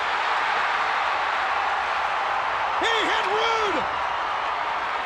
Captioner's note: crowd cheering